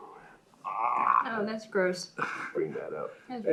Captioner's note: gags